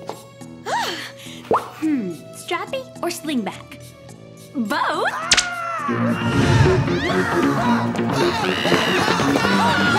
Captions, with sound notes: [gasps] Hm. Strappy or slingback? Both. [yelling and screaming]